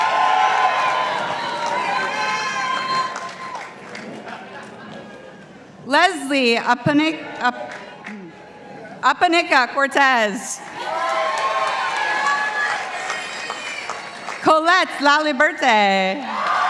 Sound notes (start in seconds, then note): 0.0 participants applauding; 10.6 participants applauding